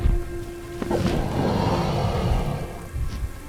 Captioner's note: snarling